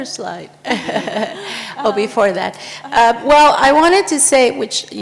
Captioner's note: laughs